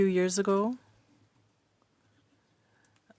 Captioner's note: speaking French